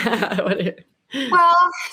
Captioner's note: laughing